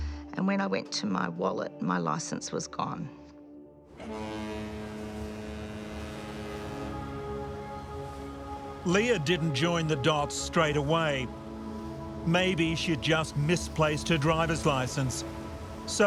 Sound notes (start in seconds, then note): 4.0 dramatic music; 4.0 ship horn honking